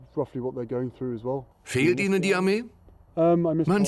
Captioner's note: voiceover